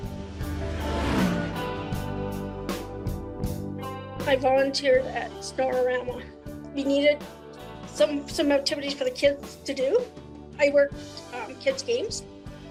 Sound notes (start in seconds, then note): 0.0 engine roaring; 0.1 gentle music